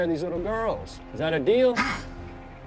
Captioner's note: growls